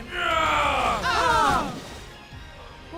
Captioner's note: screams